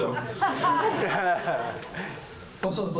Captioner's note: laughter